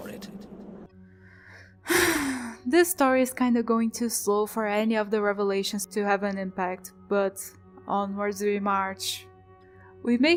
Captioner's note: sigh